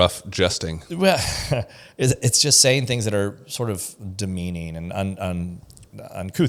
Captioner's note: laughs